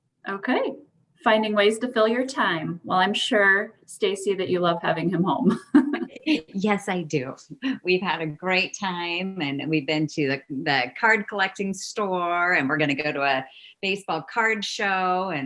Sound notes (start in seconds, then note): 5.7 laughing